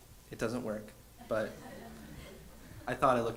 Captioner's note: audience chuckles